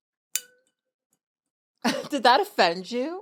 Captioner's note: glass clinks; chuckles